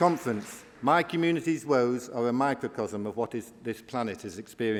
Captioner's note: applause